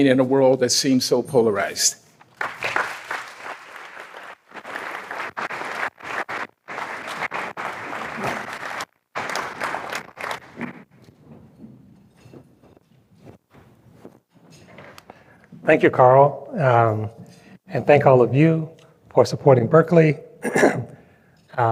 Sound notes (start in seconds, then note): 2.3 applause